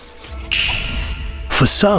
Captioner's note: metallic finger snap